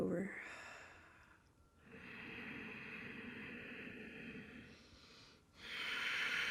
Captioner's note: breathing deeply